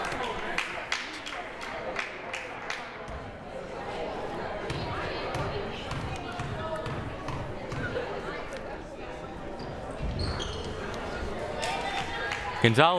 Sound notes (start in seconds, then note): 0.0 crowd applauding